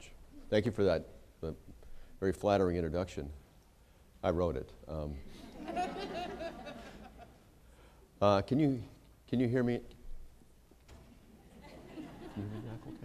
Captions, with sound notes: Thank you for that very flattering introduction. I wrote it [laughter]. Can you hear me [laughter]? You hear that okay?